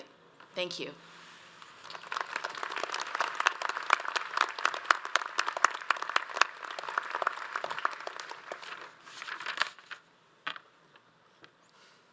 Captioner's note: audience applauds